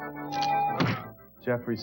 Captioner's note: bam!